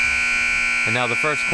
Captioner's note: buzzer sounding